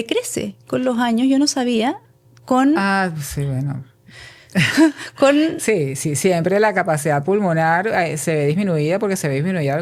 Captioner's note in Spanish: risas